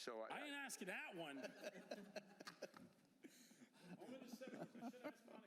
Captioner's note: laughter